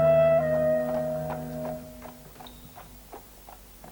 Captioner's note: horse's hooves